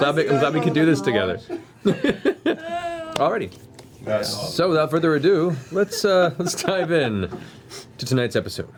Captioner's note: laughs